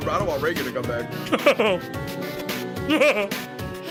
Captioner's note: laughs